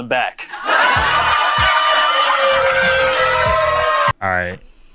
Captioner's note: crowd laughs